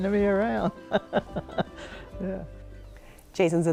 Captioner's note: laughing